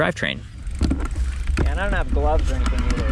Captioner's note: bike ratcheting